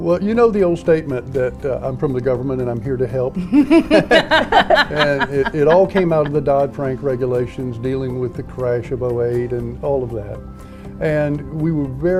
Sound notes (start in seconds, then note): 3.7 laughs